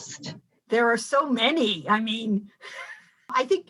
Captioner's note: laughing